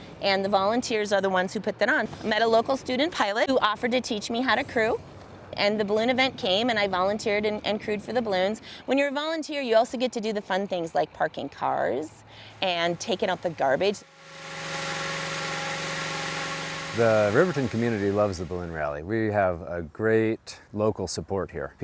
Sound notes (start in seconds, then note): 14.3 machine whirring